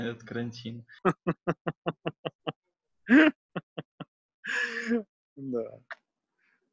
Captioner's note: laughing